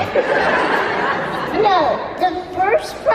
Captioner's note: audience laughter